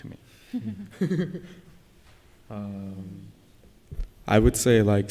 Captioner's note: laughter